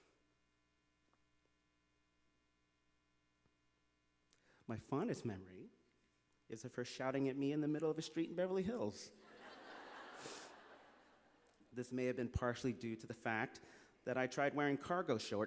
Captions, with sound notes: My fondest memory is of her shouting at me in the middle of a street in Beverly Hills. (Laughter). This may have been partially due to the fact that I tried wearing cargo shorts to a fancy